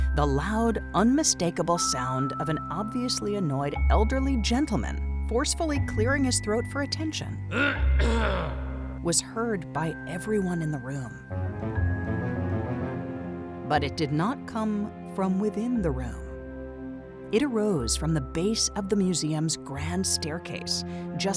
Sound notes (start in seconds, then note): 7.5 elderly gentleman clears throat; 11.0 suspenseful music